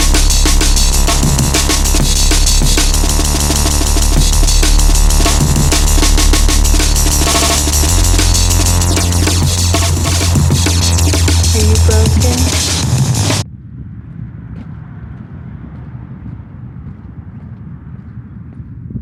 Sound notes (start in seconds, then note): 8.8 electronic winds down; 14.3 dark steady wind